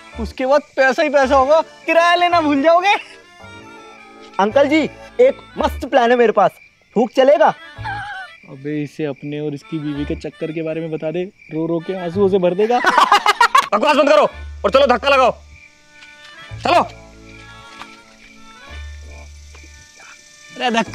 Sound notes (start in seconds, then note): 11.6 laughing